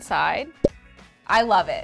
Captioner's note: cork popping